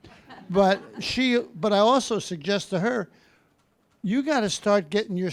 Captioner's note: audience laughing